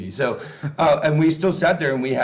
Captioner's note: chuckling